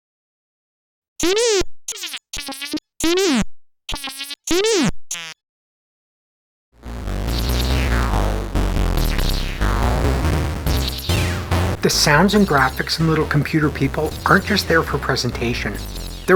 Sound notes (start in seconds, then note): 1.1 c64 simulated talking; 6.8 bassy chiptunes music